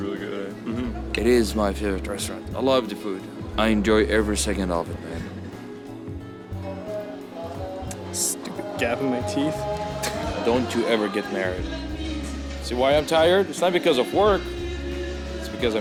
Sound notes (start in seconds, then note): 10.6 laugh